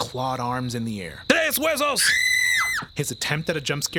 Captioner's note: speaking Spanish; Carmen and Luz scream